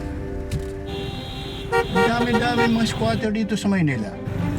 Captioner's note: horn honking